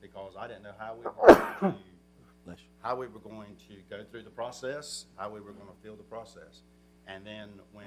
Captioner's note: sneeze